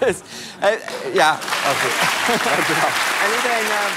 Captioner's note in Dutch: gelach; applaus